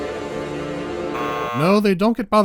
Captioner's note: buzz